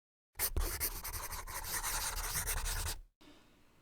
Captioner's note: scribbling